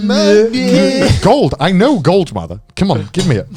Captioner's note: chuckling; both bleating